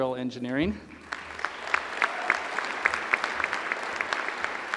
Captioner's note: applause